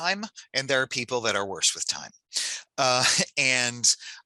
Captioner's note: chuckles